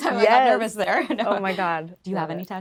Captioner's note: laughing